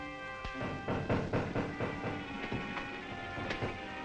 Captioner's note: men banging